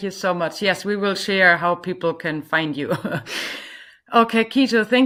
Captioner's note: chuckles